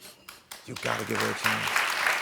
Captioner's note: audience applauding